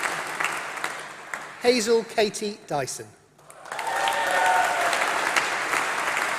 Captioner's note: applause